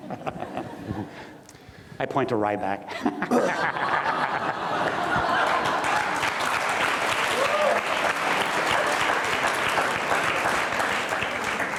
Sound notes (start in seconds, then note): 0.0 everyone laughs; 2.9 everyone laughs; 6.0 audience applauds